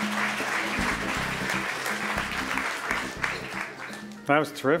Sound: applause

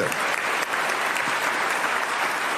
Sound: applause

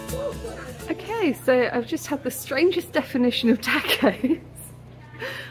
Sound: laughing

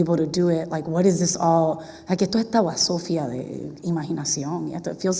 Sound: spanish

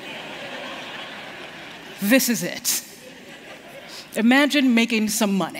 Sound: laughter

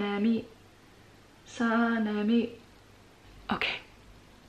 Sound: chanting

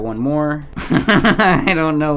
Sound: laughing

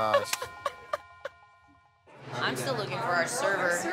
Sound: laughs

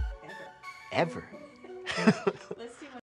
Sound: laughs

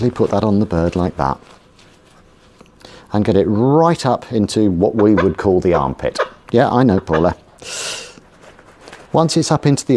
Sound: Paula clucks

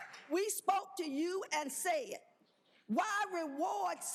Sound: applause

